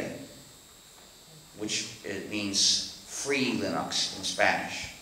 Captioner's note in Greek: στα Ισπανικά